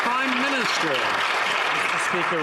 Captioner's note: some Applause